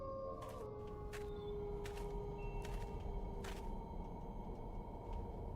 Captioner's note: howling